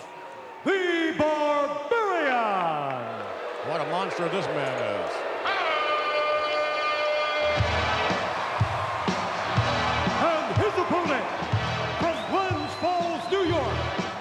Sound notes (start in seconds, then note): 5.4 audience cheering; 5.5 upbeat music